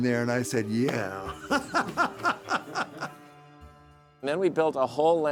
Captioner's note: chuckles